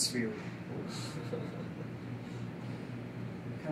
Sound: everyone chuckles

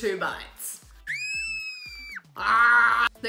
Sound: screaming; groans

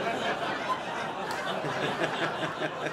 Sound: laughter

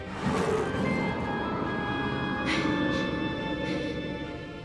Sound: loud growling

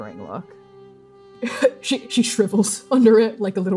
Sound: laughing

